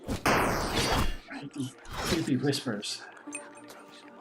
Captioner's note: creepy whispers